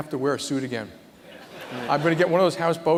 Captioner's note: laughter